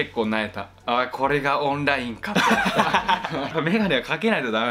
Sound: laughs

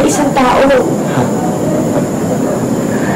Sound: Trobol scoffs

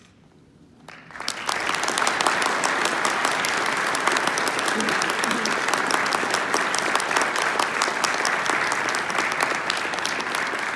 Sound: applause

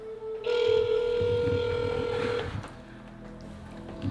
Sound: phone ringing

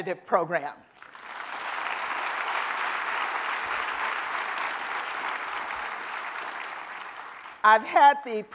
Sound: applause

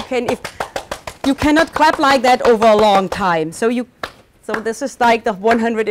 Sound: clapping rapidly; claps slower

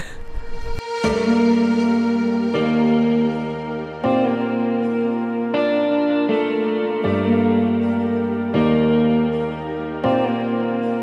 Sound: ضحك

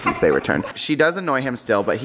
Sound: dogs whine

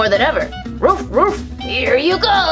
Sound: barking

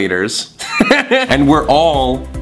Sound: laughs

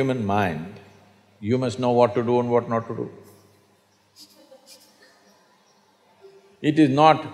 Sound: laughs

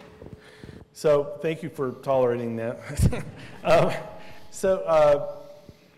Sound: laughs

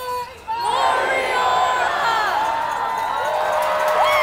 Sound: crowd

